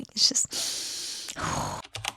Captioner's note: deep breath; typing